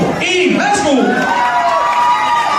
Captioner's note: the audience cheers